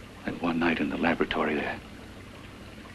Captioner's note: none